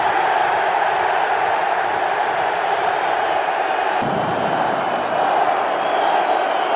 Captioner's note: crowd Cheering